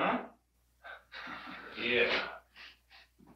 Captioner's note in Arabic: يضحك